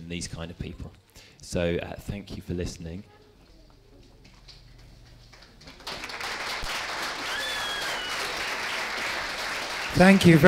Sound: applause

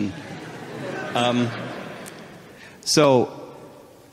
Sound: audience murmuring

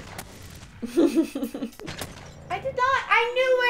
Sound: laughter

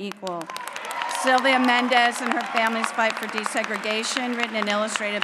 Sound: applause

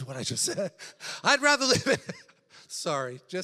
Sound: laughs

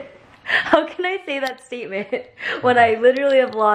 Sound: laughs

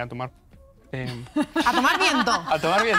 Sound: laughs

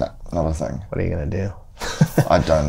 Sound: laughter

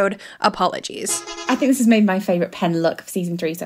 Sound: bus horn honking

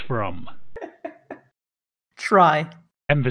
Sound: laughs

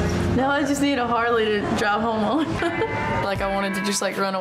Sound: laughs

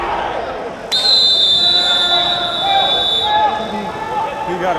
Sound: whistle blows

